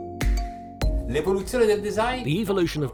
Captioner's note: speaking in a foreign language